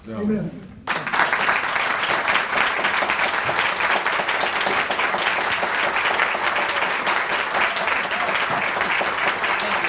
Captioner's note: applause